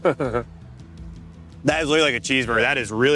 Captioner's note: laughing